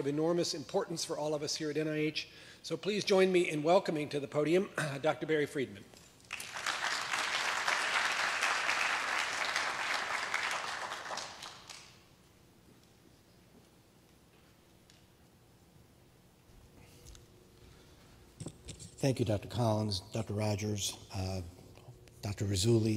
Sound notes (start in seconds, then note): 8.5 applause